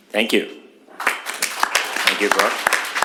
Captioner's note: applause